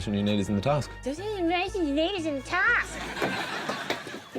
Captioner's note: mocks